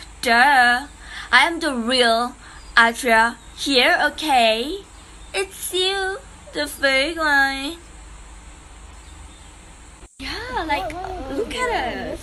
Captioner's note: whispering